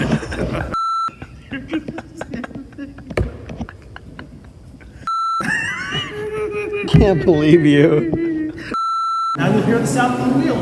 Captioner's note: laughing